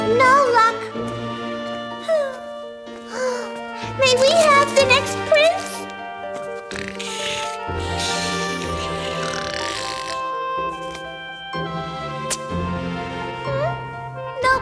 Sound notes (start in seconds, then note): 3.0 sighs; 6.6 heavy snoring; 12.2 smooch